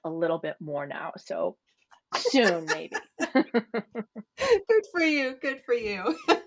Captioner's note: laugher